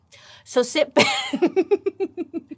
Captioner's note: laughs